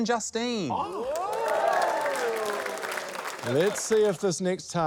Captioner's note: cheering, applause